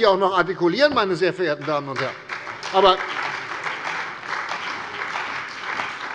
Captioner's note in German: Beifall bei der CDU und dem BÜNDNIS 90/DIE GRÜNEN